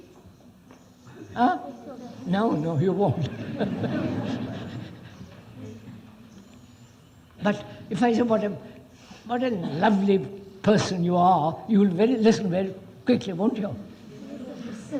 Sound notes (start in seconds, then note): 2.9 laughs; 3.1 laughter